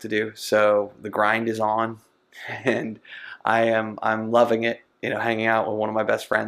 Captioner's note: laughs